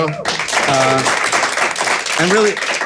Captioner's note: audience applauding